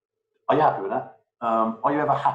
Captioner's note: murmurs